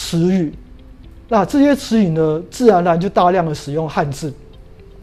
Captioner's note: chinese words